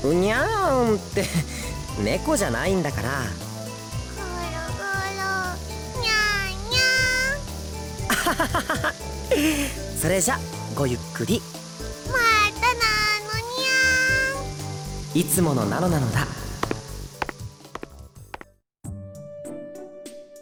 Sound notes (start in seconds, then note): 8.1 laugh